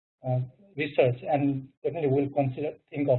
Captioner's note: murmurs